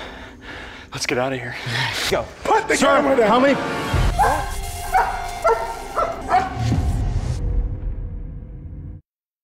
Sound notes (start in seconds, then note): 3.9 dog barking